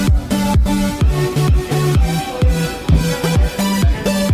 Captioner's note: purring of electric engine